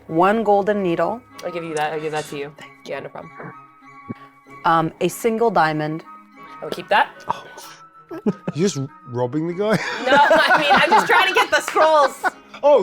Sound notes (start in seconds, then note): 9.8 laughs